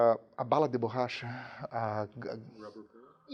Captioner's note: speaks in foreign language